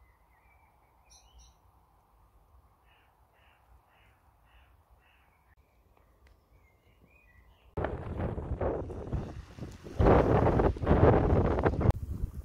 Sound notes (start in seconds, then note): 7.7 wind and wave noises